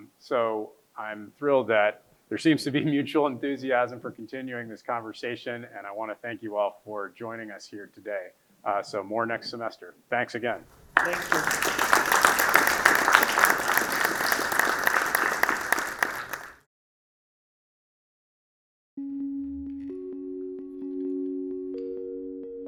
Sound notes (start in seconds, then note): 12.5 audience applauding; 19.0 soothing tones